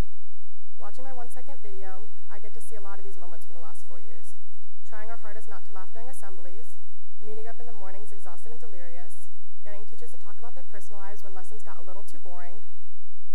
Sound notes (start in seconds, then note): none